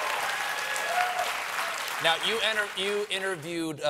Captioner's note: applause